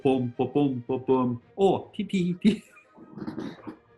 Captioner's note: laughs